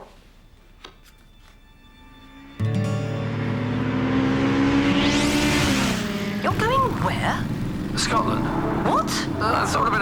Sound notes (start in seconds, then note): 0.0 soft music; 3.0 engine racing